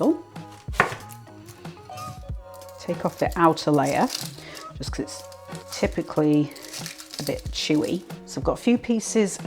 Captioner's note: papery rustling